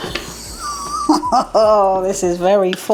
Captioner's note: laugh